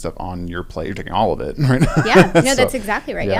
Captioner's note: laugh